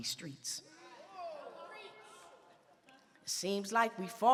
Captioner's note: audience murmuring